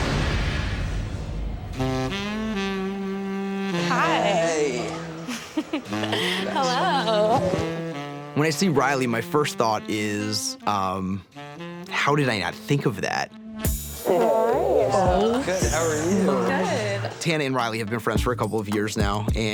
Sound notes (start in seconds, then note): 1.8 jazzy music; 5.7 chuckles